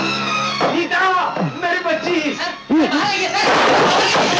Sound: tv Playing

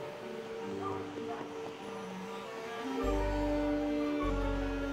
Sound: vacuum whirring; dog barking

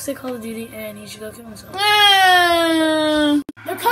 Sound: wahhhhhhhhhhhhh

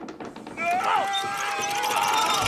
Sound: sign creaking; yells; Muppets yelling

